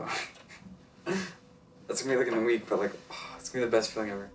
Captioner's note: chuckles